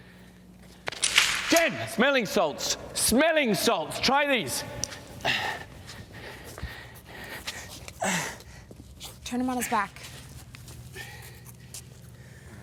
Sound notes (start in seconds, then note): 5.3 panting; 7.9 Robert moans